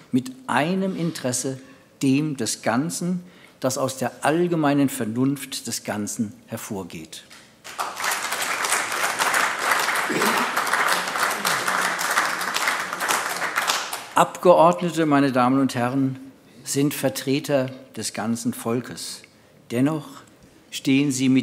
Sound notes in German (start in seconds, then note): 7.6 Beifall AfD